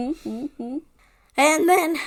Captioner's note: laughs